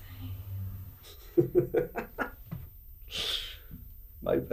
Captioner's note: laughs